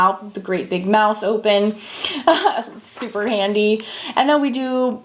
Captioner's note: laughing